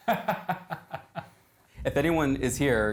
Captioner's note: laughing